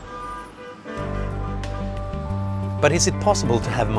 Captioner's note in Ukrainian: Сигналять машини